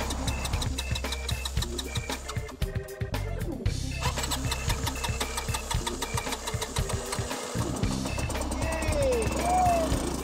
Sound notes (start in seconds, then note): 0.0 engine trying to start; 1.6 funky music; 3.9 engine trying to start; 7.9 engine starts